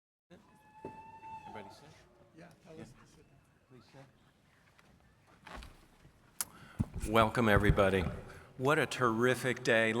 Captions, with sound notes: (people murmuring) - Welcome everybody. What a terrific day.